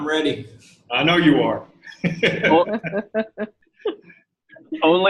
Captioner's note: chuckling